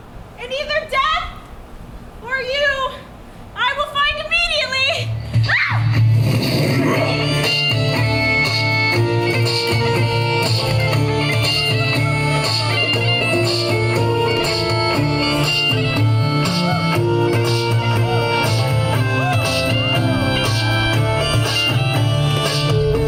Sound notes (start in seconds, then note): 5.4 Helena screams; 5.4 lively music